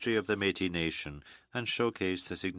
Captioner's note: speaking French